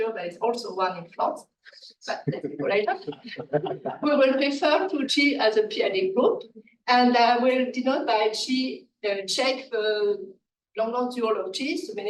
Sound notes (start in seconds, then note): 2.2 laughing